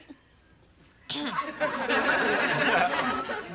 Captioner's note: clears throat